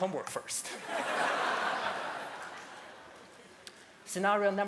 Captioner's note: laughter